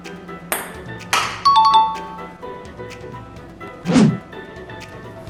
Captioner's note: ping pong ball bouncing